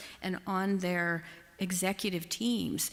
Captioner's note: none